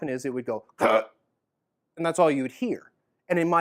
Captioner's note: makes base noise